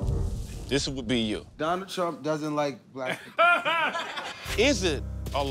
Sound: laughter

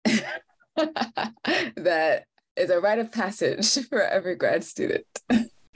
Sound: laughs

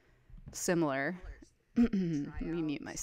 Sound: chattering in preview video

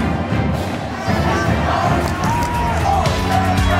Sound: crowd cheering and clapping

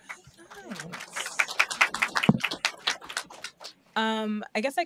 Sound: applause

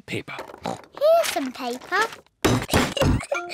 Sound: oinks; giggles

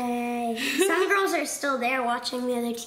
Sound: laughs

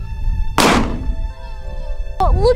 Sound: gun fires

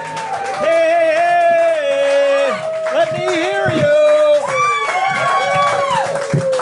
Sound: loud clapping

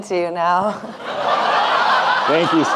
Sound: audience laughing

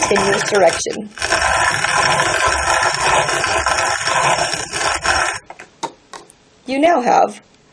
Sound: grinds wheat

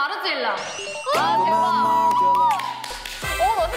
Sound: screaming; clapping

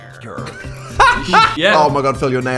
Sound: laughing

